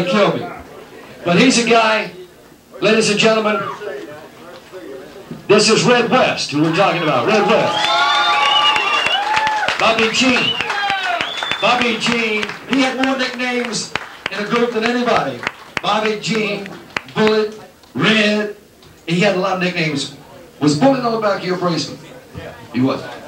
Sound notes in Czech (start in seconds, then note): 17.2 Potlesk